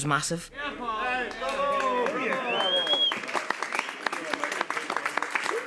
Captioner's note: cheers, applause